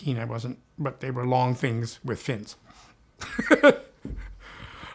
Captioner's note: chuckles